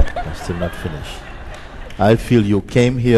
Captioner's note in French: rire